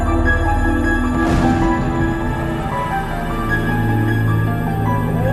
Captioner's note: machine booms